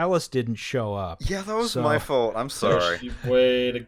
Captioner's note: defensively